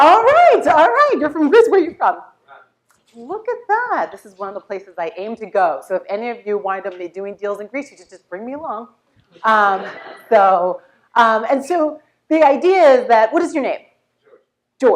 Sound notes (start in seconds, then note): 9.5 laugh